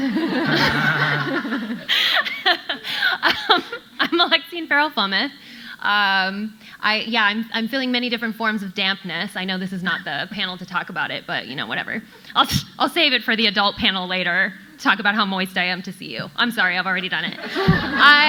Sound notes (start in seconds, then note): 0.0 audience laughing; 0.0 laughs